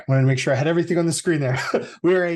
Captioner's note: chuckles